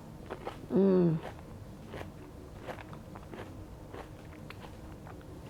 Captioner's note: munches